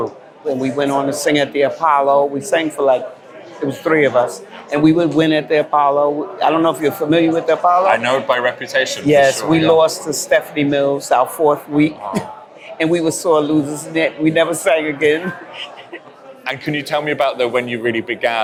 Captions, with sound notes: and we went on to sing at the Apollo. We sang for like, it was three of us, and we would win at the Apollo. I don't know if you're familiar with the Apollo? -I know it by reputation for sure. -Yes. We lost to Stephanie Mills our fourth week [laughs] and we were such sore losers, we never sang again [laughs]. -And can you tell me about the, when you really began